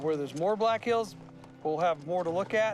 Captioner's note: none